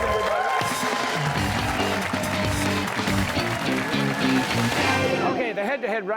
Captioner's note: cheers and applause